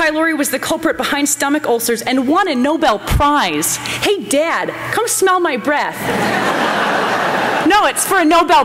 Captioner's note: laughter